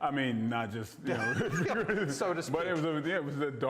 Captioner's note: laughs